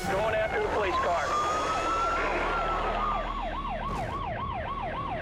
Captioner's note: siren blaring